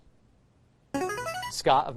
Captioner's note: buzzer